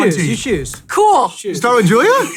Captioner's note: laughs